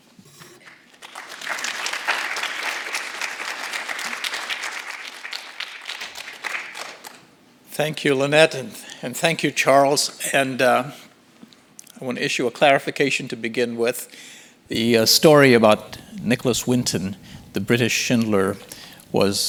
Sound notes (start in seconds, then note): 0.5 audience applauding